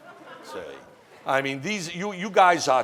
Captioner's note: laughing